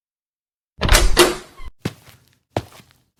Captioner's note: door opens